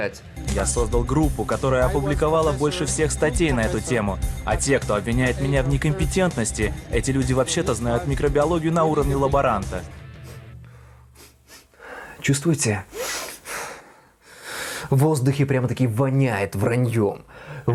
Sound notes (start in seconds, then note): 10.1 sniffing